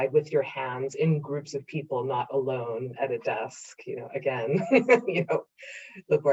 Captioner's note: laughs